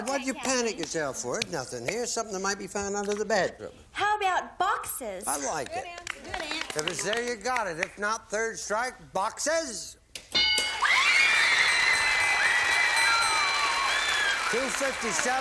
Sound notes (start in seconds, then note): 10.3 bell; 11.0 applause